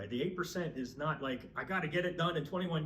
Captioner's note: none